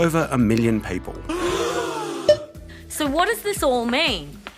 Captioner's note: gasping